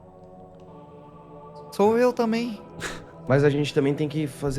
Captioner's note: laughs